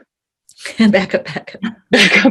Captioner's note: both chuckling